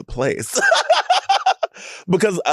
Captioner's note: Sapphira laughs